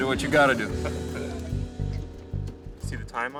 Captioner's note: laughing